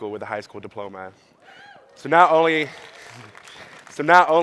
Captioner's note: audience claps